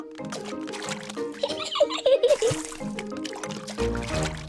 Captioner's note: giggles